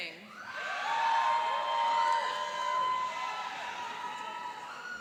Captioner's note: cheering and applauding